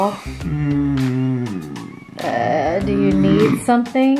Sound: moaning

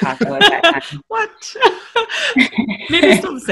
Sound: laughing

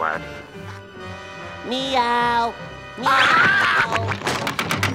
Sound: meowing, screaming

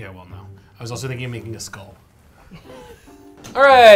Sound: laughs

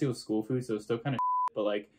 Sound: beep

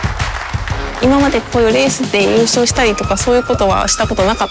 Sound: speaking Japanese

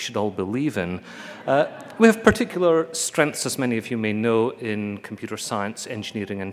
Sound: laugher

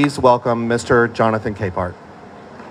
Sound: applause

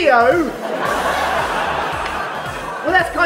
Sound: laughter

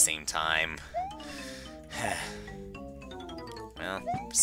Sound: breathing

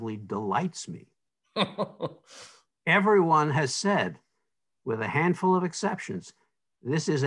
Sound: laughs

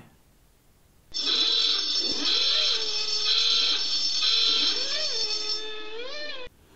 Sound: noisy klaxon

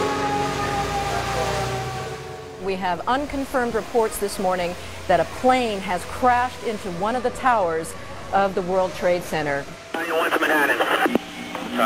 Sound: radio chatter and news broadcasts

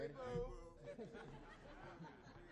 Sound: audience laughs

